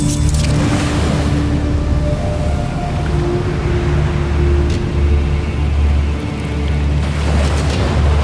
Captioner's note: music swells; device blips; waves crashing; epic music playing; waves crashing